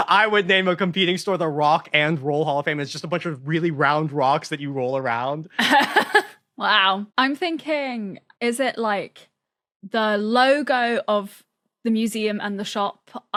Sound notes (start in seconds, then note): 5.4 laughs